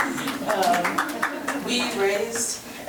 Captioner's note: board members clapping